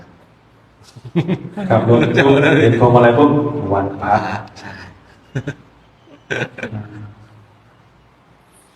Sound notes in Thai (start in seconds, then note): 4.0 เสียงหัวเราะ